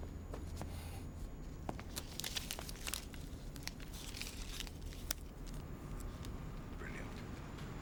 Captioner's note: none